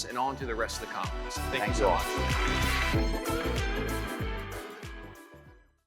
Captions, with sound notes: and on to the rest of the conference. Thank you. - Thanks, you all. (audience applauding) (upbeat music)